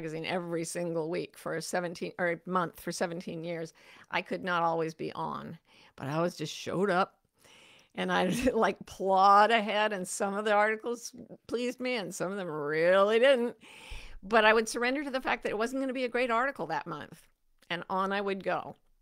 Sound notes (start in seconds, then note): 8.0 chuckles